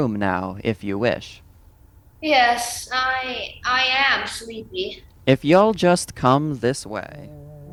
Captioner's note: yawn